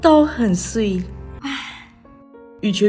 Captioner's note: ahh